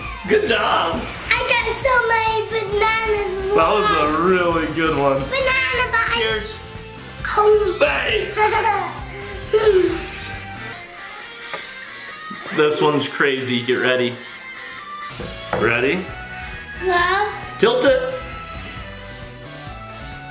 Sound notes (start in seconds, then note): 7.3 munching; 8.4 giggles